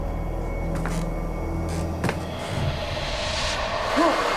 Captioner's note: creaky floorboards